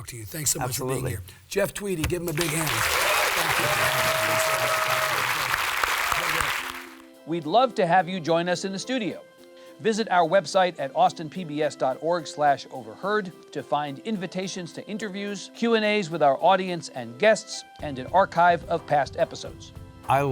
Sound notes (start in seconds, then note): 2.2 audience cheers